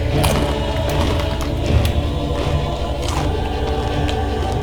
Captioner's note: crunching sound